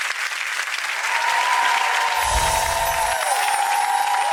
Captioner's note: audience cheering